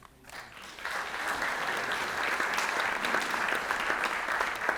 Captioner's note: audience applauds